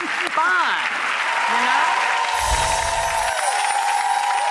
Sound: audience applauds

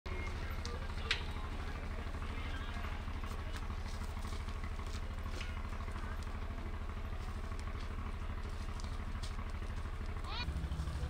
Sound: nature Sound

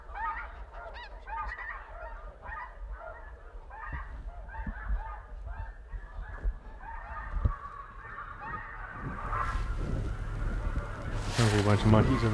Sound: goose squawking

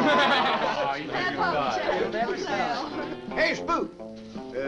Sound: laughing; all chattering

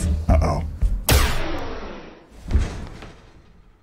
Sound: bang!

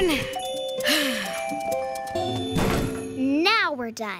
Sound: sighs

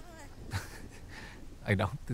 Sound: laughs

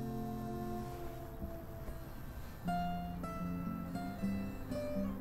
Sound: phone vibrating

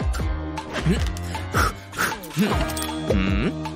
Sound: blows

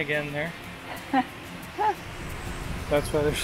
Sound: chuckles

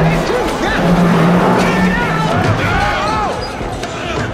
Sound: men shouting

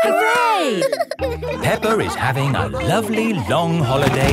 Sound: all laughing

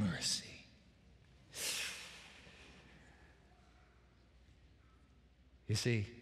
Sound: breathes deeply

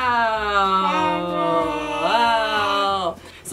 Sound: toddler babbling

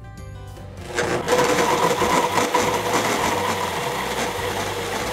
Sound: blender whirring

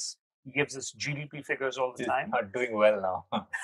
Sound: both laughing

